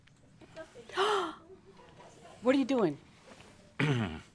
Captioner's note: gasps